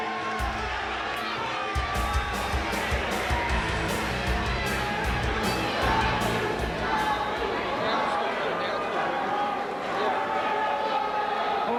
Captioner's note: crowd chatter